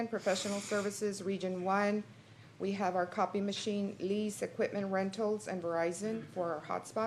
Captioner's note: snorts